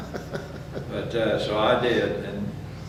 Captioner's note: laughs